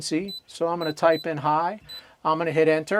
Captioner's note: beeping